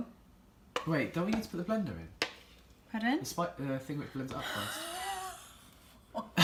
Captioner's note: gasp